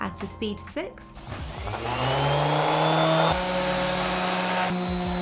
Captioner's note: sander whirring